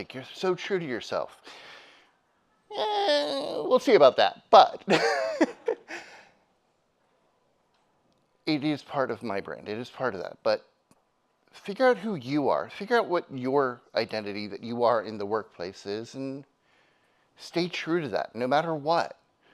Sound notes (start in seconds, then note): 2.1 attendee giggling; 2.7 groans; 4.8 laughs; 5.3 audience laughs